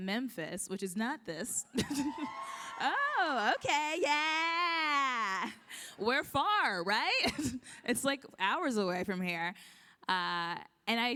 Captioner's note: applause